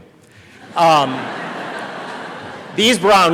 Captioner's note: audience laughing